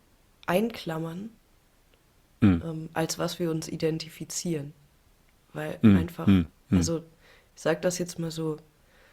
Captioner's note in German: räuspern